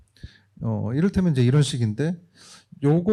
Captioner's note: speaking korean